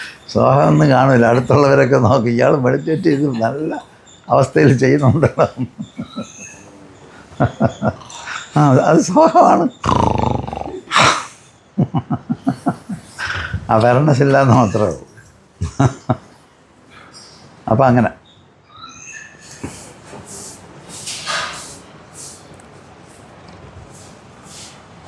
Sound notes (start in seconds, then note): 0.0 laughing; 8.7 laughing; 10.7 snorts; 11.7 laughter; 15.6 laughter; 19.2 laughter; 19.2 snorts